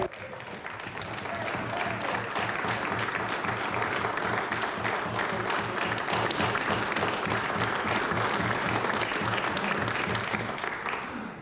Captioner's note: cheering/Applause